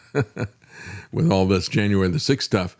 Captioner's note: laughs